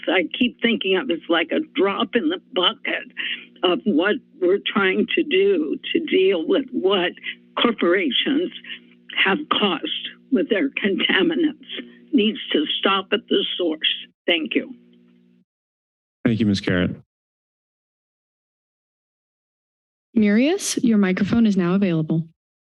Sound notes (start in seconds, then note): 15.1 silence; 18.1 silence